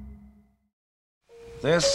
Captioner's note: silence